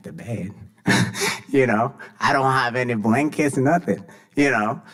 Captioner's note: laughs